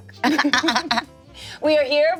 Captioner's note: everyone laughs